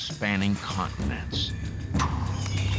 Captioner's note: puffs